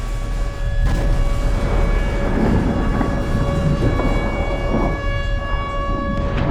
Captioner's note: rumbling and explosions